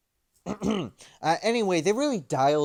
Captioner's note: ahem